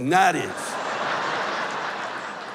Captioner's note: laughter